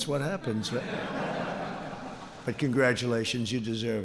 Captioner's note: laughter